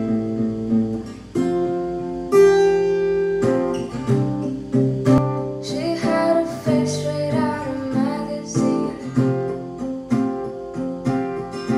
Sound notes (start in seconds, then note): none